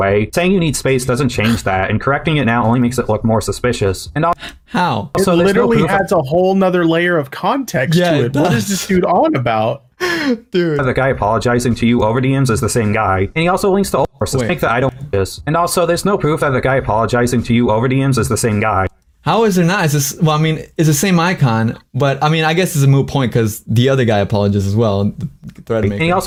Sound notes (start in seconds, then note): 7.8 laughs